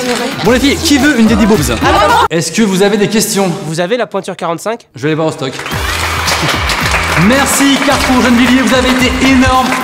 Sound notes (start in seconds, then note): 5.6 cheering